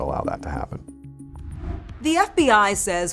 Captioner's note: graphics whooshing